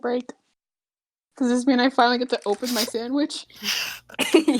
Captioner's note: choking